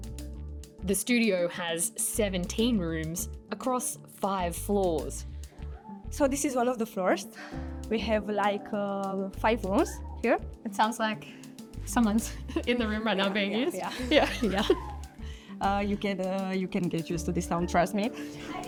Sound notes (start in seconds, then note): 10.1 squeal; 12.2 laughs